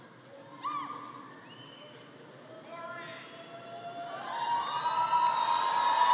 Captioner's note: audience cheering and clapping